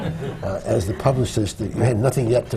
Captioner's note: laughter